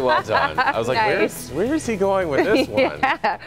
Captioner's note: laughter